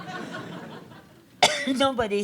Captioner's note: audience laughs